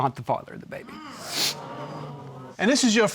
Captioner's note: audience gasps